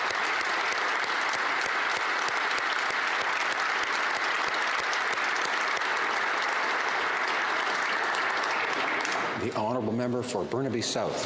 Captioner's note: applause